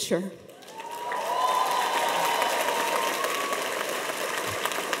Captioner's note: cheers and applause